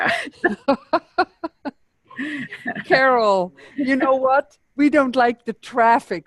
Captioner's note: chuckles